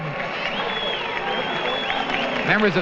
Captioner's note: cheering